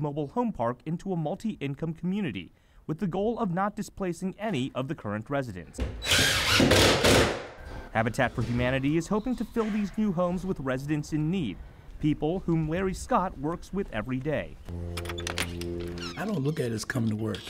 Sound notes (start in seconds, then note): 6.0 drilling; 14.8 opening door